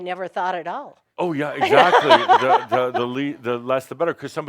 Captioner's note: she laughs